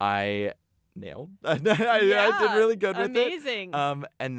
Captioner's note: laughs